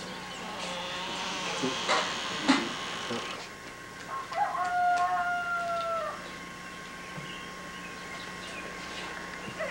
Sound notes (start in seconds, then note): 4.0 rooster crowing